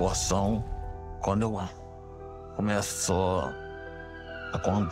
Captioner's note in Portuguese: sirene ecoando